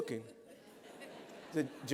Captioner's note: laughter